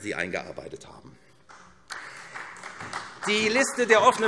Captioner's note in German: Beifall SPD